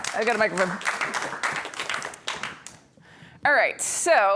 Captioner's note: applause